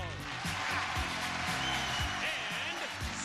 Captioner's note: audience applause